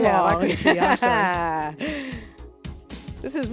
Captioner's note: laughs